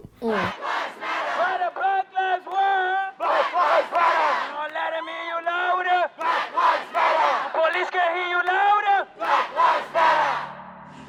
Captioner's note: chanting